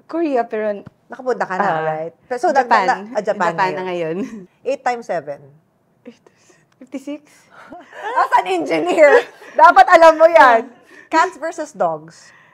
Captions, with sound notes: - Korea. But-- - You've been there already, right? Japan. I wanna go to Japan. 8x7 = ? 56? [laughs] As an engineer, you should know that. Cats versus dogs?